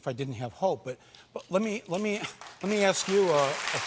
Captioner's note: applause